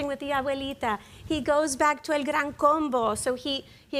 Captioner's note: speaks in Spanish